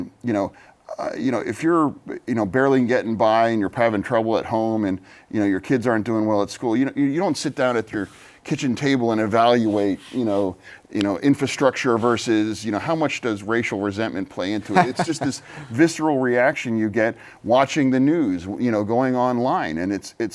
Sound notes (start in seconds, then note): 14.6 laughter